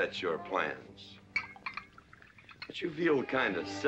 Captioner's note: liquor pouring